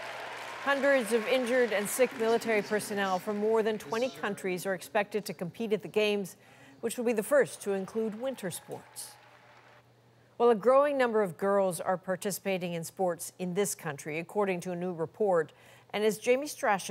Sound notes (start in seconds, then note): 2.6 applause